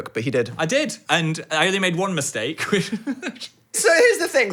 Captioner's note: laughs